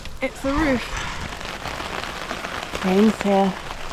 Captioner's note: rain